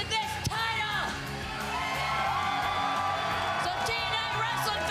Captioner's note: cheering